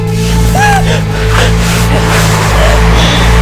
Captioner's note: gasps